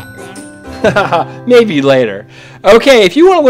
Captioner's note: laughs